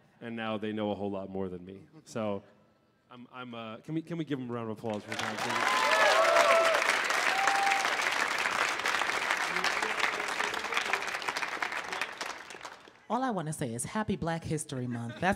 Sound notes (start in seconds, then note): 5.0 audience cheers; 6.4 audience applauds